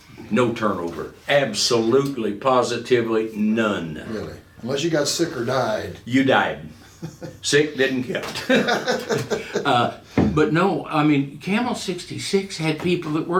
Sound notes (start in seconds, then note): 8.3 laughing